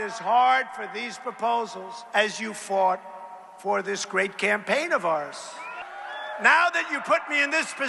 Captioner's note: cheers